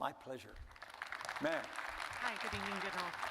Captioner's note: audience applauding